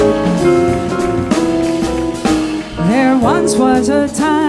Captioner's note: audience applauding